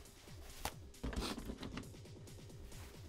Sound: sniff

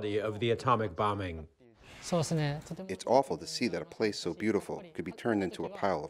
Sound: through translator

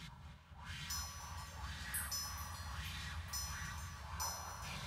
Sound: wind chimes chiming

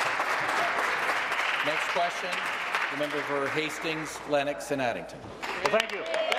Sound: applause

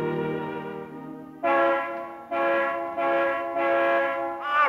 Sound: horn honks

